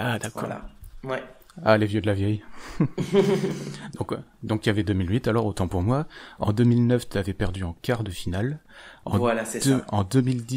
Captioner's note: laugh